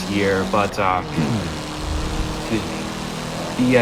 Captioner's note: clears throat